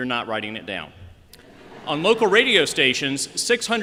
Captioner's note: laughter